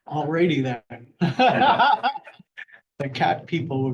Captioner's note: laughter